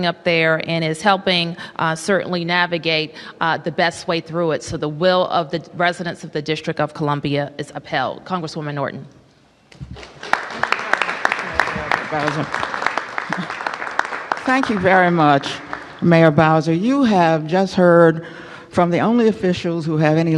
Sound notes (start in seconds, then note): 11.6 applause